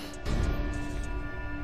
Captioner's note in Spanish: Disparo